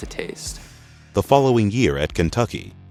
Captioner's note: voiceover